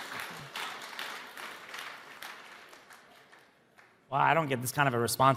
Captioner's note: audience applauding